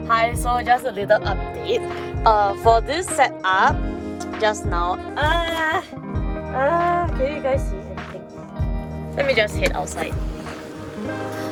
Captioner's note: birthing sounds